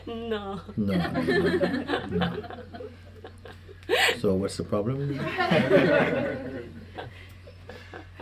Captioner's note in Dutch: gelach